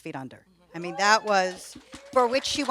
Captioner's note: audience applauds and cheers